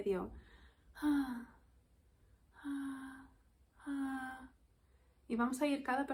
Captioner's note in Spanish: suspiro